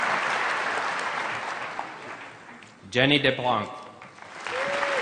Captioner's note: applause; applause